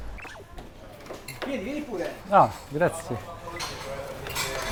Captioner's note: Italian